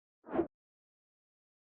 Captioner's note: woosh